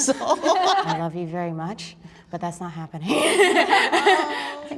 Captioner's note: laughs